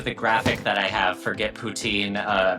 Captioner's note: graphic thudding